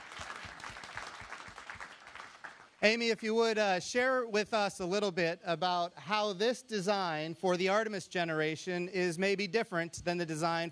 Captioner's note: applause